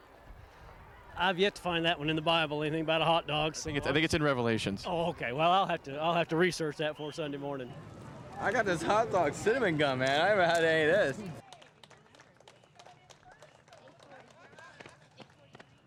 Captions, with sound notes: - I've yet to find that one in the Bible, anything about hot dogs. - I think it's in Revelations. - Oh, okay, well, I'll have to research that before Sunday morning. - I got this hot dog cinnamon gum, man. I never had any of this. (clapping)